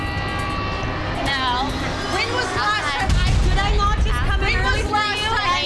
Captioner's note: women fighting